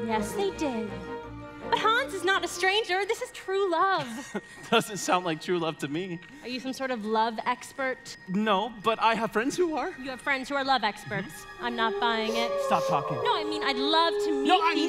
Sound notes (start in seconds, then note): 4.0 chuckles; 11.6 wolves howling